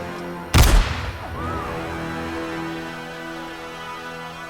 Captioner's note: gunfire echoing